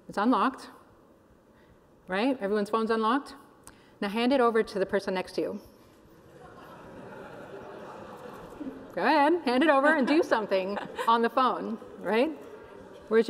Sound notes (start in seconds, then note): 6.2 laughter